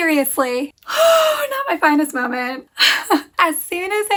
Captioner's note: sigh